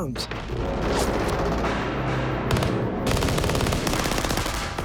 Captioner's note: gunfire